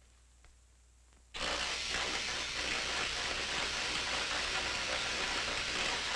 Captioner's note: electricity crackling